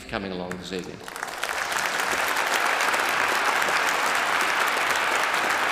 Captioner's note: applauds